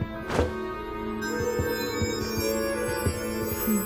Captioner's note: orb shimmering